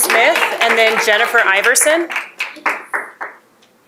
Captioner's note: applause